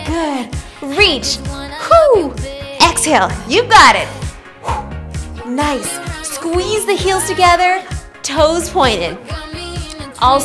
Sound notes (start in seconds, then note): 4.4 exhales